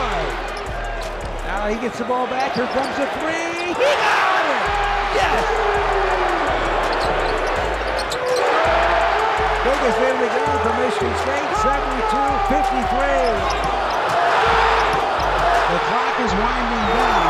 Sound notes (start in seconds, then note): 5.3 crowd cheering; 7.8 shoes squeaking on floor